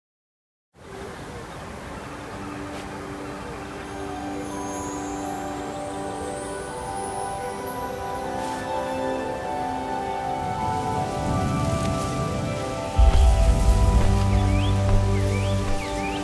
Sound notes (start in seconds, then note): 1.7 birds chirping; 1.7 peaceful music